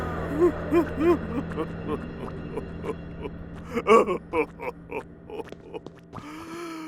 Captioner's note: Pharaoh sobbing